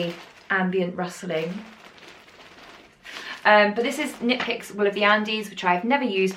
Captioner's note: rustle, rustle